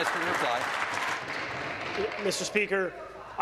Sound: applause

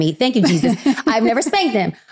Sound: giggling

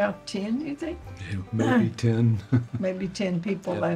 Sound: chuckles

